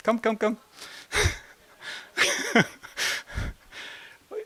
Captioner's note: laught